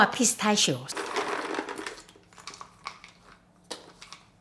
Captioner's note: nuts rumbling